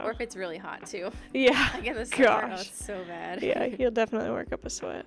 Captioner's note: laughter